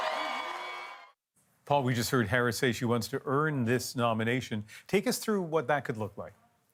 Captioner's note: cheers and Applause